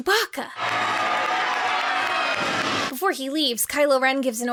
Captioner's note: guests cheering